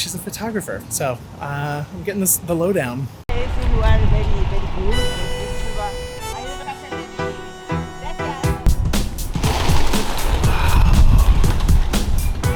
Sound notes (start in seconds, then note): 3.3 bright music; 3.3 chatting; 9.3 wings flapping